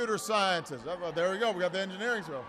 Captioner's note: applause